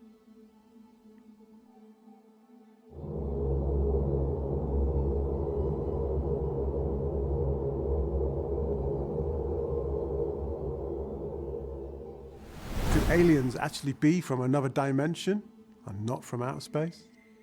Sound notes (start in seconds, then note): 3.2 ominous music; 12.4 wind whooshing